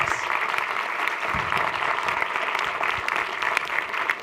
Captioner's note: applause